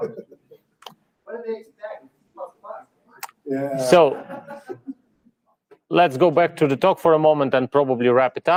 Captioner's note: laughing